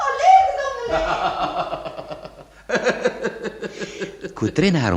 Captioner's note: laughs